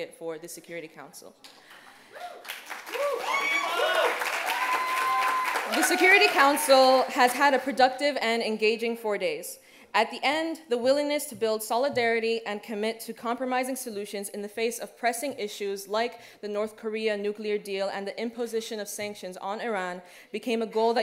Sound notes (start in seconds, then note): 2.1 cheers